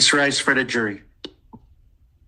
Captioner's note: mouse clicking